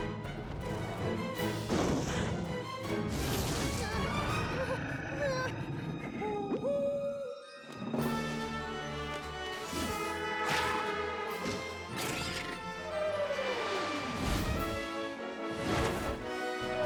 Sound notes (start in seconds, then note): 0.1 screech!; 2.2 snarling; 5.5 whimpering; 14.1 whoosh!